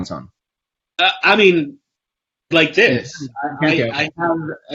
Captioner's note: mic warbles